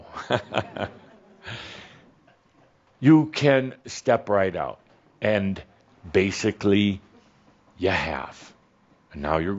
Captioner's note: Adamus chuckles